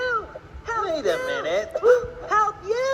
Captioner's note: Iago echoing "Help you!" in the background; both gasp